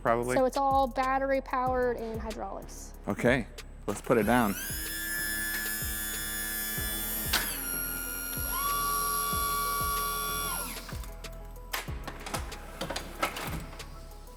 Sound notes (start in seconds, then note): 3.9 hydraulics whirring